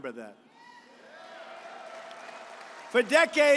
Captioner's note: applause